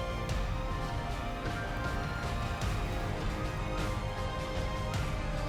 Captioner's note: bow string rustles